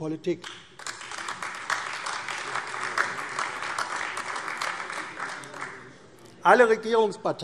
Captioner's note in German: Beifall AfD